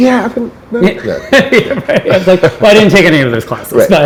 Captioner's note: laughs